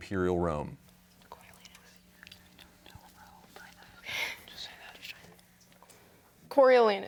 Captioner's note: team whispering